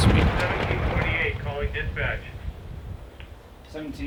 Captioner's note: radio